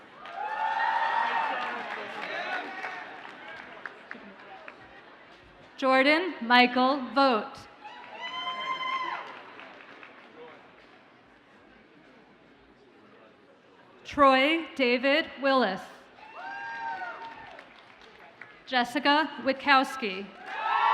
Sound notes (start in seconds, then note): 0.0 audience cheers and applauds; 7.8 audience cheers and applauds; 16.2 audience cheers and applauds; 20.4 audience cheers and applauds